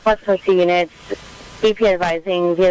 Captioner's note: radio Chatter